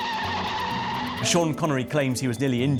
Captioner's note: tires screech